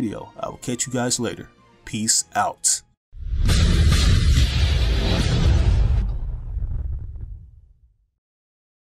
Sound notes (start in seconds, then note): 3.2 loud Sound Effects